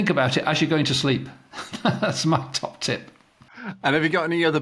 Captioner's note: laughs